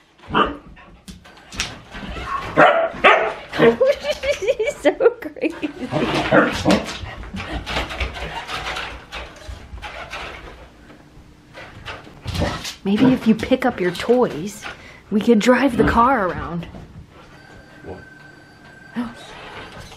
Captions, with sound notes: (Kira barks at the RC car) She's so crazy! (laughing) Maybe if you pick up your toys, we could drive the car around.